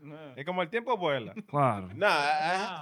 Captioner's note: speaking In Foreign Language